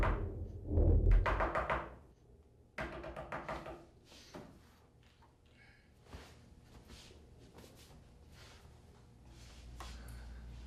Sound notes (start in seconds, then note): 3.5 rustling